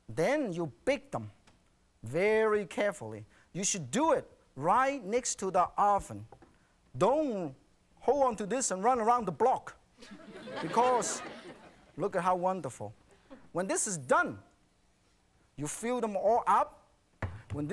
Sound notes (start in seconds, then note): 10.0 audience laughing